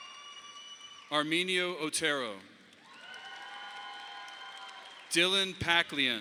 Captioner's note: audience applauding; audience applauding